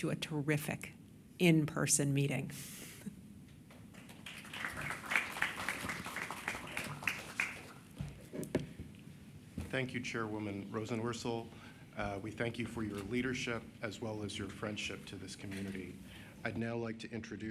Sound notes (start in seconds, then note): 7.6 applause